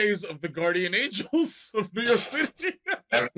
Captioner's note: laughter